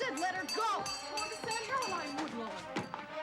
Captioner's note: bell clanging